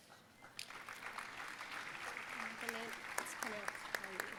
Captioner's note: audience applauding